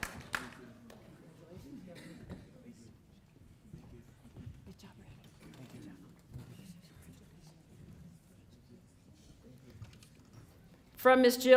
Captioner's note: applause